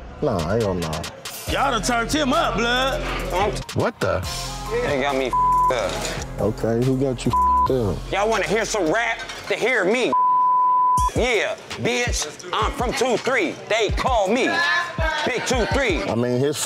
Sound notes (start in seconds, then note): 10.1 beep